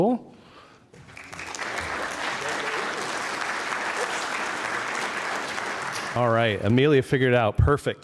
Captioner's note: applause